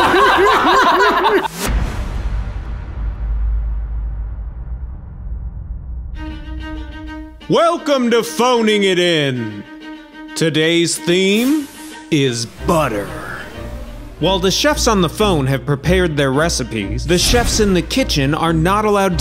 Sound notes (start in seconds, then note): 0.0 all laughing; 1.4 logo whooshing